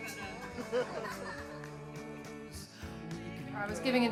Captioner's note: laughing